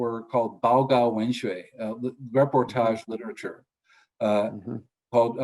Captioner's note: speaks in foreign language